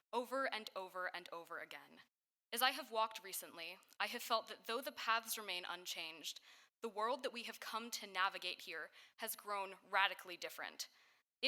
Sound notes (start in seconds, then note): none